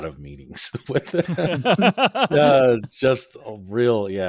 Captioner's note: all laughing